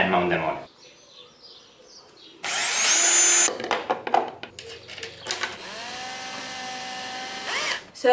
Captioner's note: construction sounds